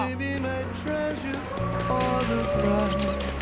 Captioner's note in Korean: 짝짝짝짝짝짝